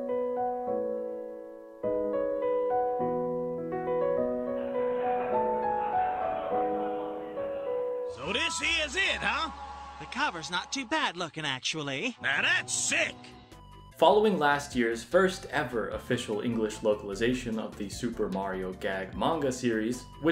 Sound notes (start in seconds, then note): 4.8 Super Mario All-Stars SNES opening crowd chatter sounds